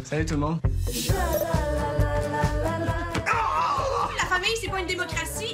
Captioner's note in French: cri de douleur